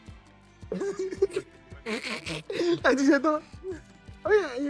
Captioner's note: laughs